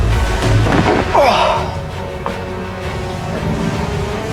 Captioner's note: suspenseful music continues; hawk groans; suspenseful music continues